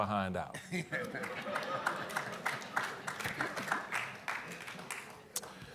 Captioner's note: audience laughing and applauding